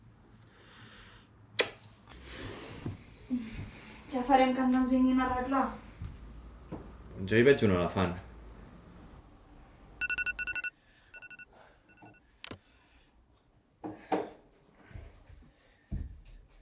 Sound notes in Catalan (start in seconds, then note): 10.0 Alarma sonant